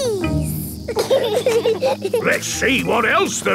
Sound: bees buzzing

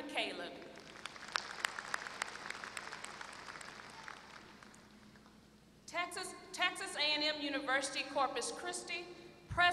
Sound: applause

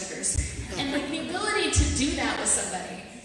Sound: audience laughter

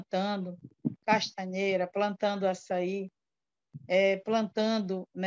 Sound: foreign language

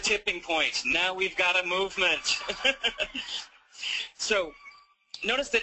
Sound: video speaker laughs

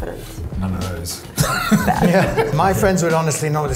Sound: laughs

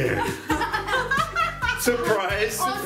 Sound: laughing

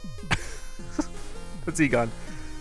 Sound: giggles

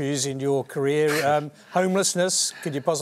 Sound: laughs

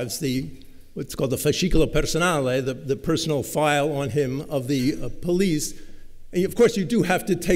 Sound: italian

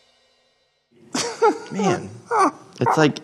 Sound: both laughing

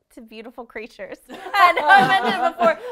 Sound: laughing

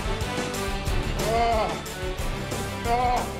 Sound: moans

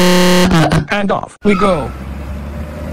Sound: tire screech

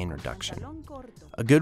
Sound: foreign language 00:09:18

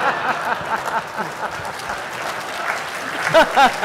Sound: laughter; applause

